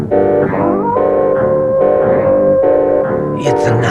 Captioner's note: wolf howls